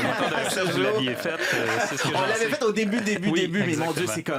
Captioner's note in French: rires